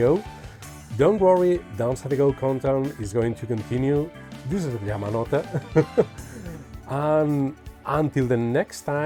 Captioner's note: laughs